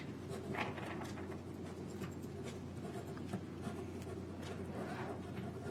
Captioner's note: pen scribbling on paper